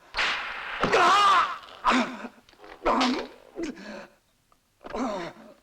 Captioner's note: grunts